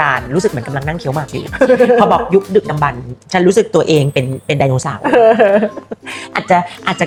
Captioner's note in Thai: เสียงหัวเราะ